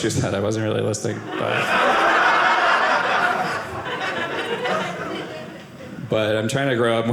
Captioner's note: audience laughing